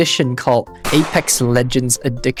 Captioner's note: bang!